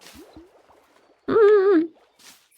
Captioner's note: indecisive noises